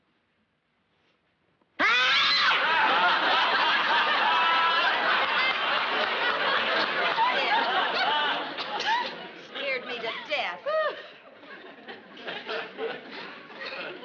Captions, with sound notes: (both scream) You scared me. You scared me to death! (sighs)